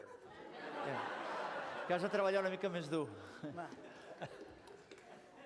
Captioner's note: non-english speech